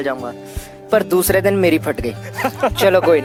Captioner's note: laugh